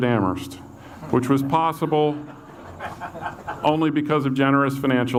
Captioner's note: audience laughs